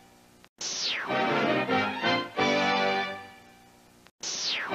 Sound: whooshing and music continuing

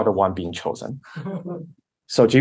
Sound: laughter

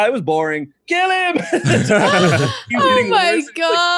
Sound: laughter

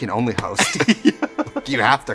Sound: laughing

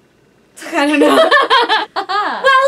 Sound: laughs

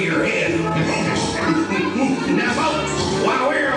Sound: Repeat Laughs and snorts more

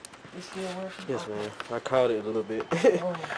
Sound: laughs

